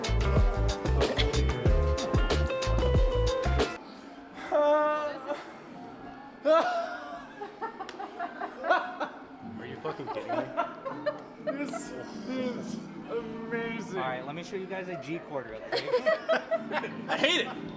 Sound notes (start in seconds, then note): 6.4 laughing; 12.1 deep Voice